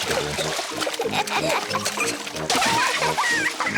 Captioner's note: both laugh